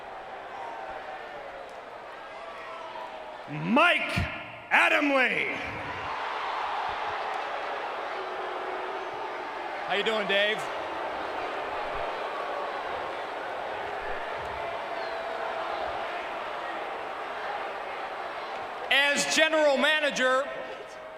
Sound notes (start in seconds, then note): 5.9 crowd cheering; 8.9 crowd booing; 11.9 crowd booing continues